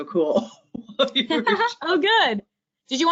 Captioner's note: both laughing